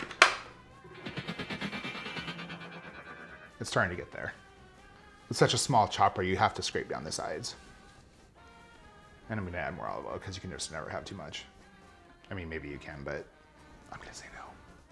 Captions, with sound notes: (spring vibrating) It's starting to get there. With such a small chopper, you have to scrape down the sides. And I'm gonna add more olive oil, 'cause you can just never have too much. I mean maybe you can, but I'm gonna say no.